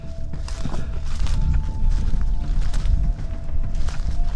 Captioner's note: rustling leaves